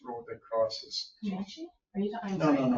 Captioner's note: speaks distantly